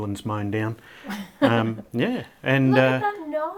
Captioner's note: laughing